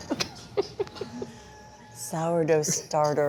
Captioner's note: laughs